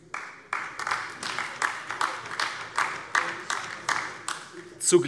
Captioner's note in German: Beifall AfD